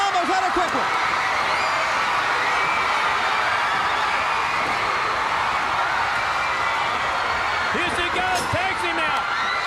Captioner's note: crowd cheering